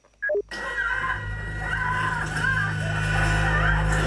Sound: movie screams resume

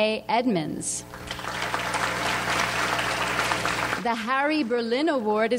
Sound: audience applauds

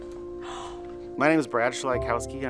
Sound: gasps

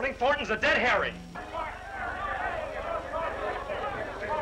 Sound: shouting

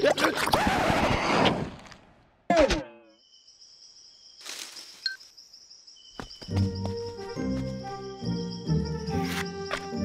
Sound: needle scratches across record; hook scraping

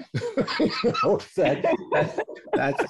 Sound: laughter

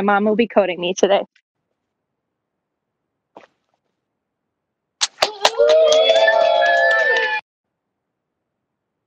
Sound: cheering

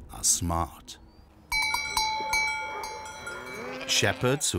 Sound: bells dinging

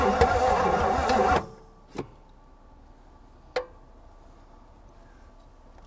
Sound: vehicle engine stops

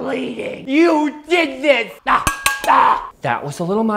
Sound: screams

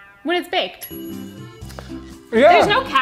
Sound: microwave dings

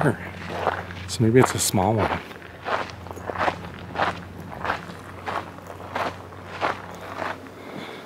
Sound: footsteps

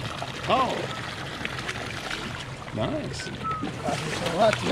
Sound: reel cranking

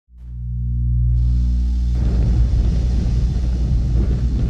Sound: heavy rumbling

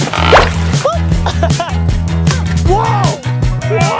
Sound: laughs

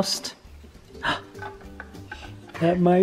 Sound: gasps

